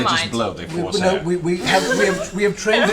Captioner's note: laughs